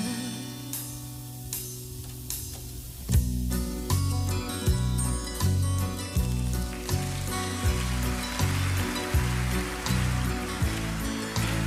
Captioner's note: applause